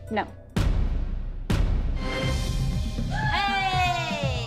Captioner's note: cheering